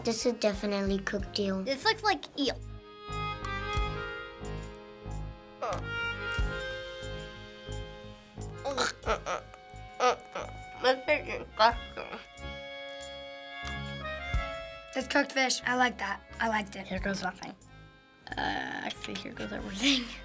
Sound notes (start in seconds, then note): 5.5 groans quietly; 8.6 gags